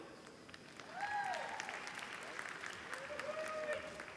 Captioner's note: applause